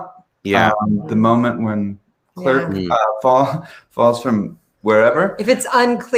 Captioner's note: laughs